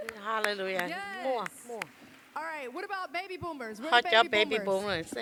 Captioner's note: applause